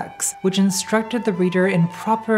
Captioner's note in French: none